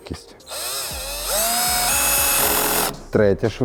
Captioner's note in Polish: dźwięk wkrętarki